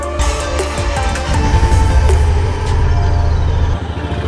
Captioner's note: engine revving